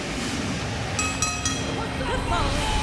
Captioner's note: bell ringing